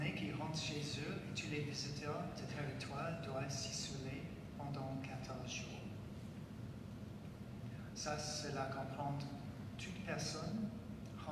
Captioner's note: speaking French